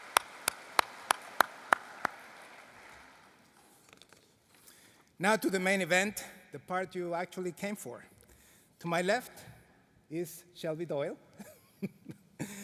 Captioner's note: applause